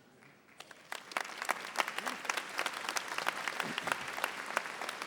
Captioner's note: audience applauding